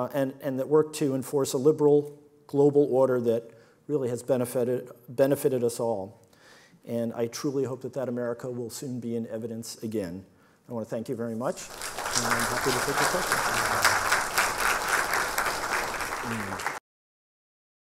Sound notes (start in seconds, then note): 13.7 audience applauds loudly